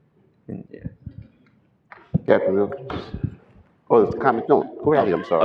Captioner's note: laughter